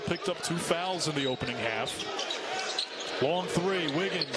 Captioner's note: cheering